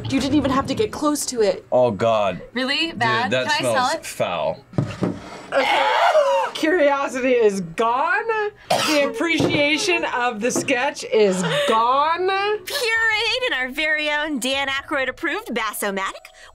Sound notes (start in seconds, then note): 5.5 gags; 8.6 coughs